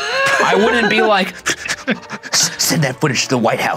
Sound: laughing; hyperventilating

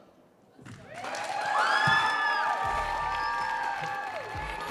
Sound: audience cheering

